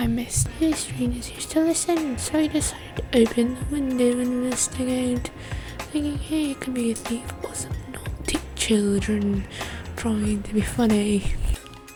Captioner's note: says script Harry Potter style